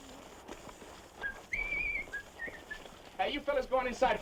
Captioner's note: kid whistling